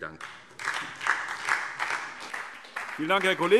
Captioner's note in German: Beifall SPD